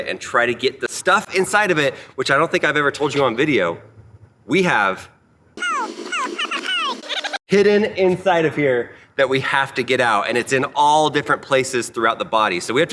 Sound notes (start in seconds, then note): 5.3 beeps